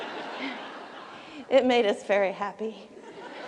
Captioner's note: laughter